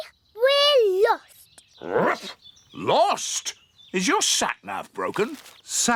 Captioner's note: barks